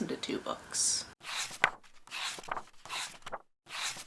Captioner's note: pages turning